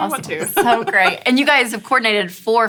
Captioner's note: laughs